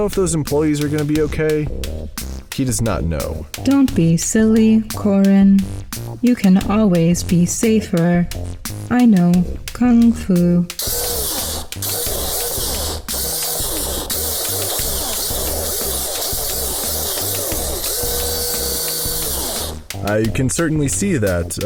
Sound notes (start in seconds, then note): 10.8 electric motor noises